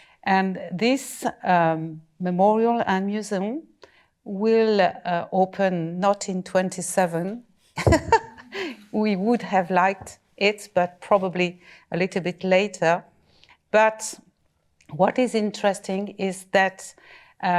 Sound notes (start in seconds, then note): 7.7 laughs